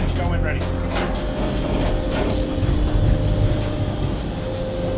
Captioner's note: crane whirs